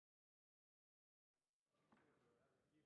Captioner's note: some Applause